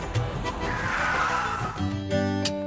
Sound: car halting

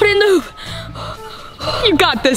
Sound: panting nervously

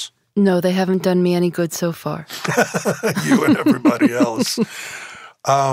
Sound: both laugh

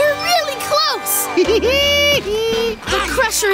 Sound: giggling

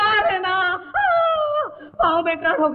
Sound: groans

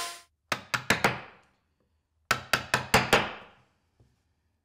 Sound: hammer banging

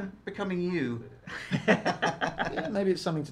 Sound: both laugh

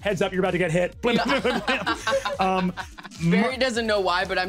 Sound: laughing

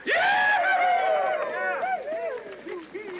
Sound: soldiers cheer

